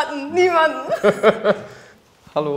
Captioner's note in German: Lachen